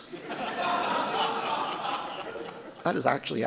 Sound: audience laughing

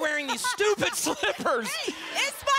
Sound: laughter

